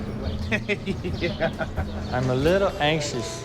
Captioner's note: laughing